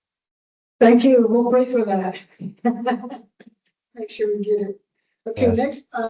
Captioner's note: laughs